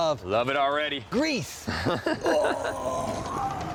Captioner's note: laughs